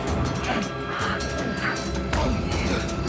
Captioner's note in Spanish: golpes